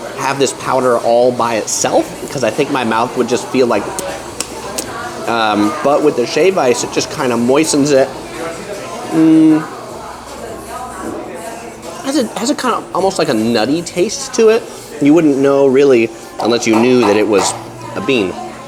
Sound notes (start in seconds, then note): 4.3 smacks lips